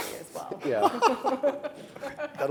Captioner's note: all laughing